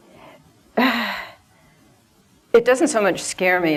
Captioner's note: sighs